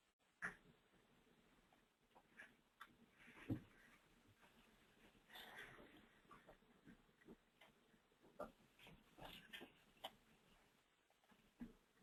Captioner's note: long pause